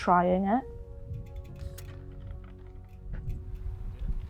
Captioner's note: bike rear wheel hub clicking